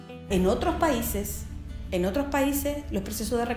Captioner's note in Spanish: Voz en off